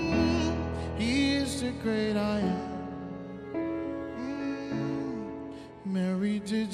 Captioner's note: humming